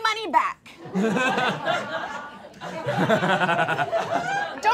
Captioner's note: all laughing